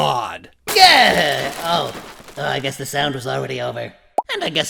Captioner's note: pop!